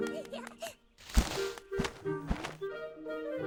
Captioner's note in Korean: 나무 소리; 날갯짓 소리